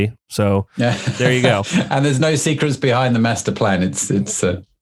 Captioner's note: laughs